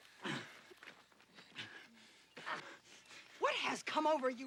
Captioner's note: Robert panting